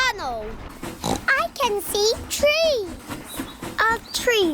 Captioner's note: oinks